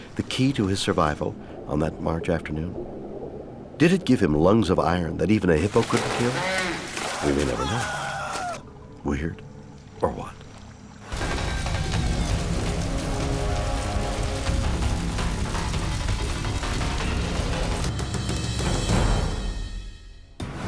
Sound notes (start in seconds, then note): 7.1 man screaming; 11.3 intense music